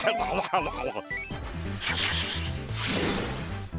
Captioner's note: whooshing